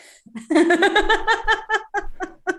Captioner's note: laughter